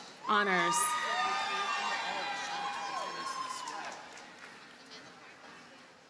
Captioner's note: audience cheers and applauds